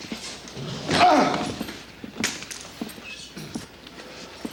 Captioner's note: TJ groans